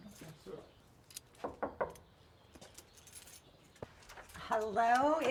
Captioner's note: knocking door